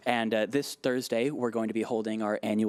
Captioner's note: none